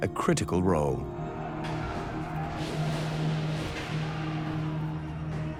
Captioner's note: men shouting faintly, gunfire